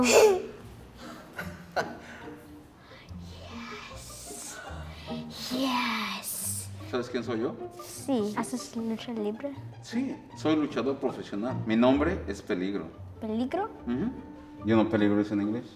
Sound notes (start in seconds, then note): 1.0 laughs; 7.0 speaking foreign language